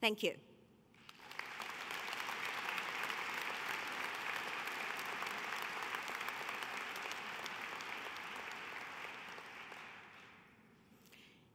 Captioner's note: applause